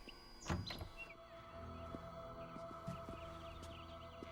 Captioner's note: ominous music; door clicks